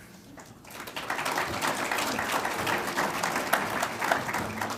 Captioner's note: audience applauds